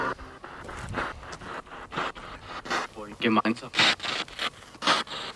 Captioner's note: radio noise from the spirit box